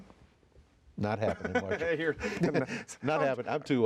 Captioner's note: laughs